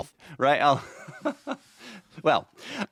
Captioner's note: laughing